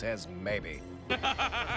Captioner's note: sinister martian laughter